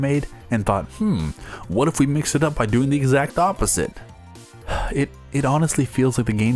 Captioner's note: sigh